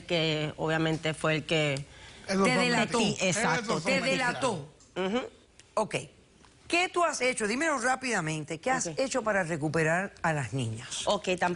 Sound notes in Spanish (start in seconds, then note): 3.5 Hablan al unísono